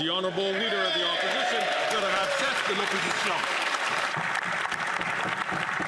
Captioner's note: some Applause